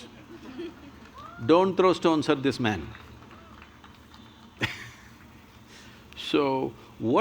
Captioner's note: few laugh; laughs